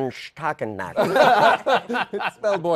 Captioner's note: laughter